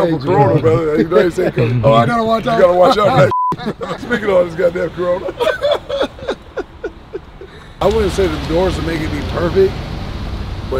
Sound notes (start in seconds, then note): 3.1 beeps; 5.5 laughing